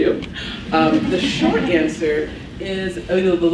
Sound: laughs

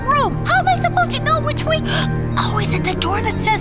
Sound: gasps

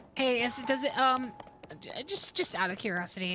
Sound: none

